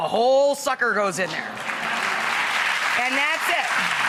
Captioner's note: audience clapping